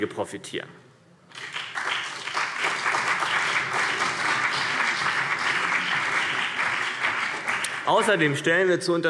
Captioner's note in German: Beifall CDU und BÜNDNIS 90/DIE GRÜNEN